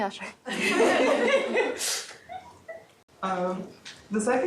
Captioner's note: laughter